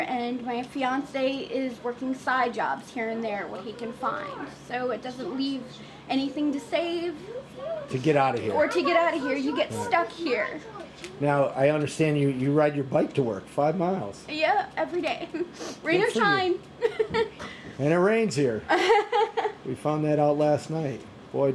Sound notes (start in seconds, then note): 16.8 chuckles; 18.7 laughs